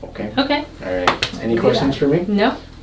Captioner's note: slaps legs